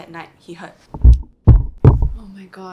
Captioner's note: thud ,thud, thud